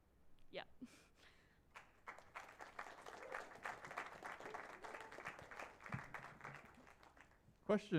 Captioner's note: applause